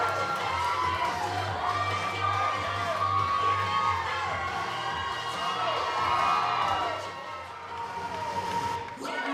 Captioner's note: pop music; crowd cheering